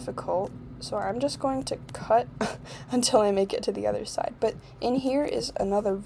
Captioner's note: laugh